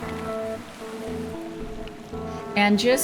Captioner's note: water bubbling